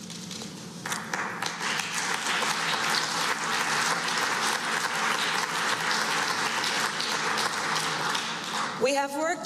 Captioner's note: applause